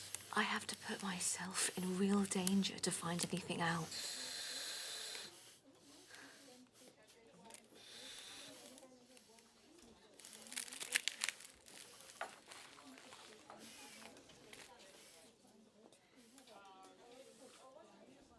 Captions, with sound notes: I have to put myself in real danger to find anything out. (soft chattering)